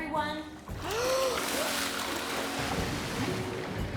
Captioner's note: all Inhale Deeply